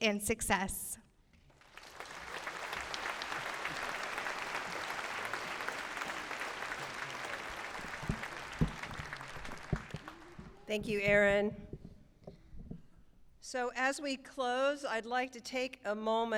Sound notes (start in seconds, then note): 3.4 applause